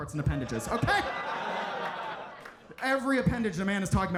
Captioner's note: audience laughs